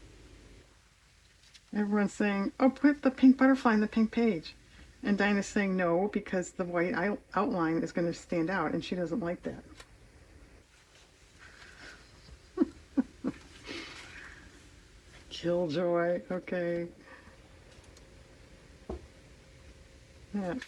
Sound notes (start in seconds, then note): 11.8 laughs